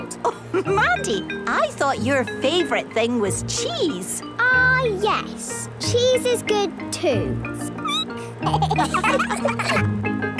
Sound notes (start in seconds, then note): 7.8 squeaking; 8.4 laughter